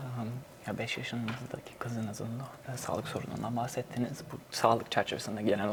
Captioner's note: translator speaks in Turkish